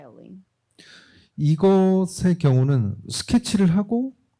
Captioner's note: speaking korean